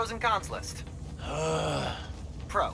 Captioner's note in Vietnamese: Âm thanh chán chườn